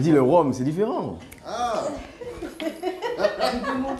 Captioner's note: laughs